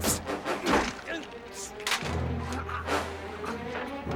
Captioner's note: moans